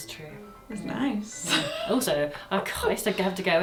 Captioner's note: laughs